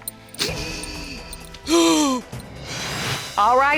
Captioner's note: grandmother gasps